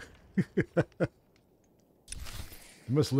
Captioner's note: laughs